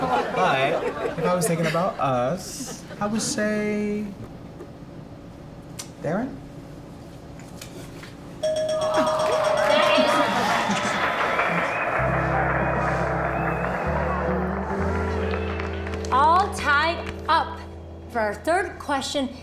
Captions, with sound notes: - But, you know, if I was thinking about us, I would say... Darren? (Bell dings). - All tied up! For our third question,